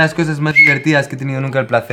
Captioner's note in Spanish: Silbido